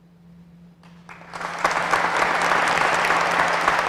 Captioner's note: applause